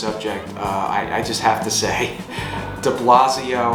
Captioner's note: laughs